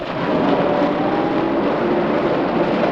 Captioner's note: armored car approaching